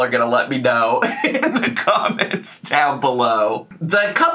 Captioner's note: laughing